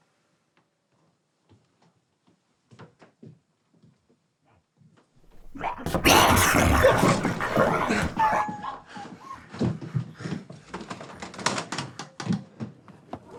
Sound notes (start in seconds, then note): 5.3 growling; 8.4 animal whimpering